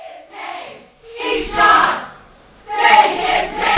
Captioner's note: crowd